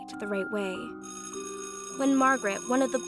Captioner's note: school bell rings